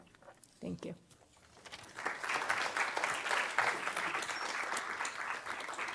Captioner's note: applause